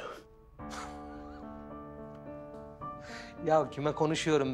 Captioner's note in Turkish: Gülüyor